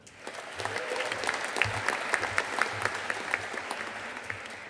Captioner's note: audience applauding